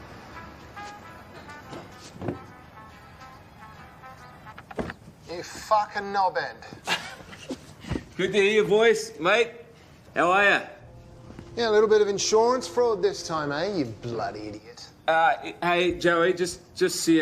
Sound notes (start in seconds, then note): 4.2 hold music ends; 6.7 laughs